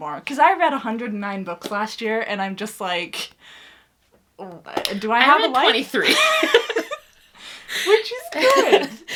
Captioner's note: laughs